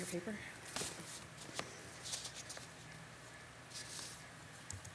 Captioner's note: paper rustling